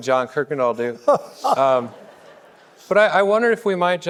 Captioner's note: laughing; audience laughing